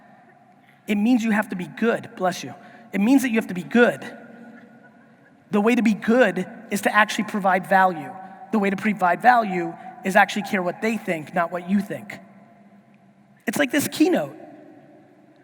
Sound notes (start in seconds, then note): none